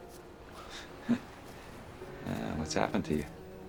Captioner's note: chuckles